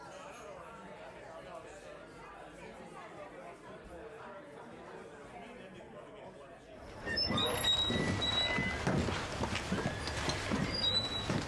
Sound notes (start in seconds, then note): 1.4 chatter